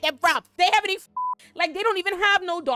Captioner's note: beep